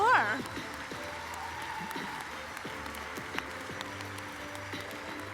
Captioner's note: applause, cheering